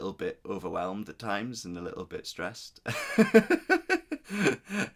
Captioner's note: laughs